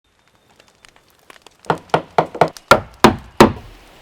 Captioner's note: fire crackling